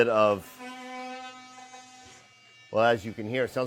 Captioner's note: machine whirring